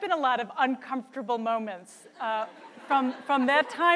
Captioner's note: audience laughs